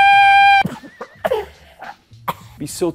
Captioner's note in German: Husten